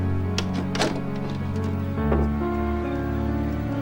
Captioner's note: wooden window opens